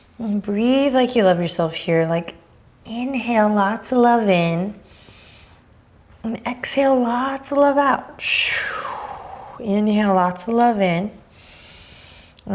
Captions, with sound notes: Breathe like you love yourself here. Inhale lots of love in and exhale lots of love out. (exhaling) Inhale lots of love in. (inhaling)